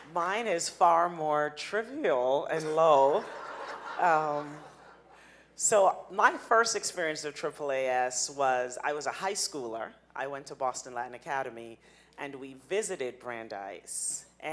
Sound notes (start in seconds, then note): 3.1 audience laughing